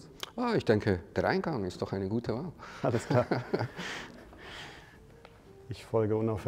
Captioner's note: laughs